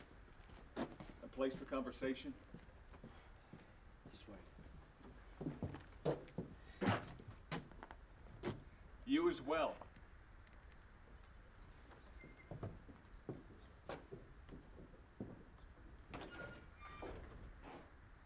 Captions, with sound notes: - A place for conversation? - This way. - You as well. (door creaking)